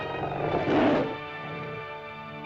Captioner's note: dramatic music; lizard snarls; dramatic music